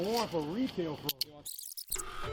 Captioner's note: tape rewinding